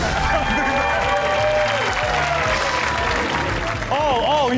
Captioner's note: audience cheers